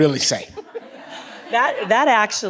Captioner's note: audience laughs